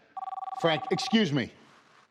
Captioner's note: telephone ringing